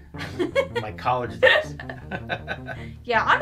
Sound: chuckles; laughs

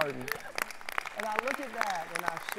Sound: applause

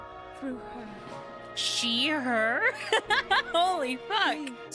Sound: laughter

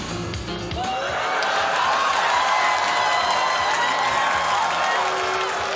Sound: crowd cheering and booing

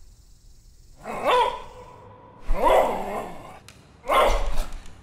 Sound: dog barking

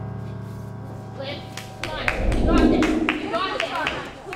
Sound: cheering

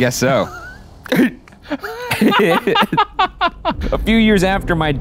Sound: both laugh

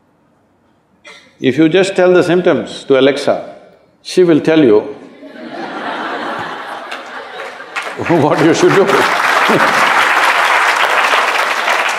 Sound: applauds

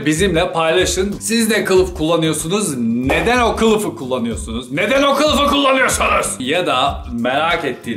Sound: yelling

